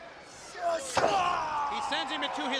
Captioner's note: Muta screams; head thuds